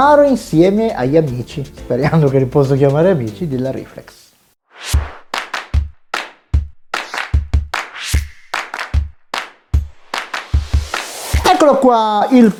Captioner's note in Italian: Applauso